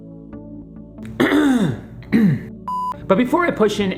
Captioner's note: clears throat